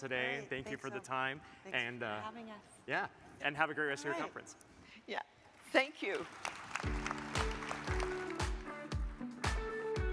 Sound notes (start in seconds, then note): 5.6 audience claps; 6.8 upbeat music